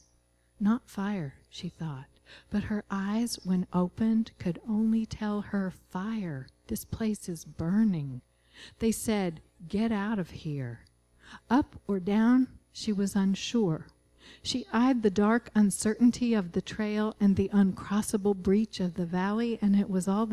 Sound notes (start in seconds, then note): none